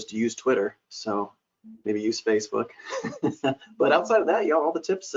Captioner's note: laughs